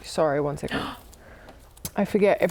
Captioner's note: gasp